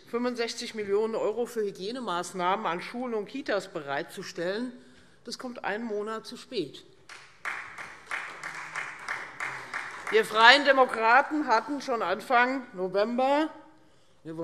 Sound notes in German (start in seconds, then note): 7.0 Beifall Freie Demokraten